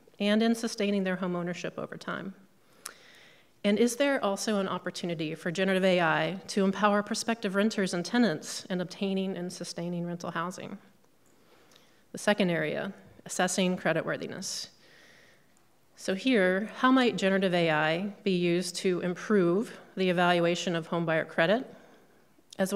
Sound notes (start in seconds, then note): none